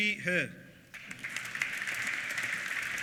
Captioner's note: applause